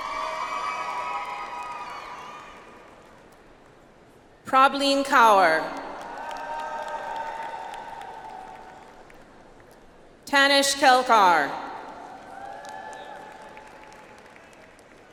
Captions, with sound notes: (audience applauds) Prableen Kaur. (audience applauds) Tanish Kelkar. (audience applauds)